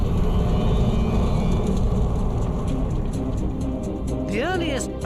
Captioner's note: flames crackling; intense music